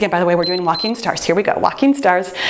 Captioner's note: timer beeps